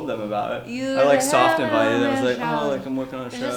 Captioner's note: mumbles